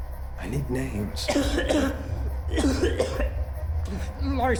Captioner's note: heavy coughing